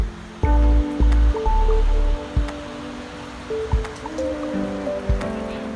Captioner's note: pattering rain and a distant train horn